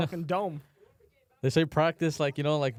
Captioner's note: sniffs; sighs